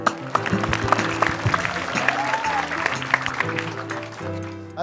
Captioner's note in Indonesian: Tepukan penonton